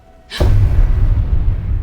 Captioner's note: boom sound